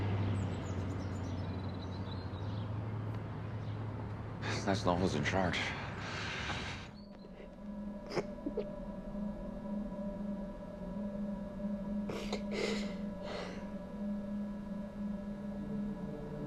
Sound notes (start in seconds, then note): 0.0 birds chirping; 8.0 Maggie crying; 10.7 dramatic music; 14.4 Maggie crying